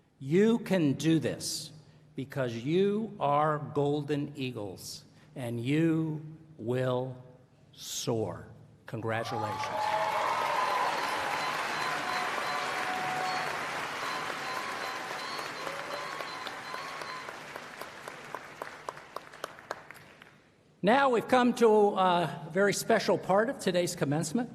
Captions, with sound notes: You can do this, because you are golden eagles, and you will soar. Congratulations. [ Applause ] Now we've come to a very special part of today's commencement.